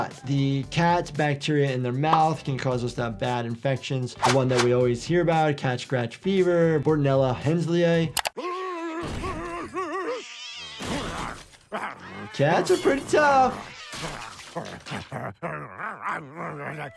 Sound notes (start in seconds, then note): 8.4 Brian shouting; 8.4 cat meowing; 14.0 Brian growling